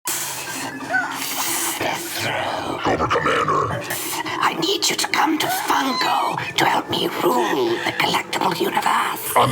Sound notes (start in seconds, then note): 0.2 electronics beeping; 0.2 machinery hissing